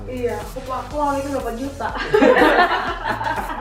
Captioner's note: laugh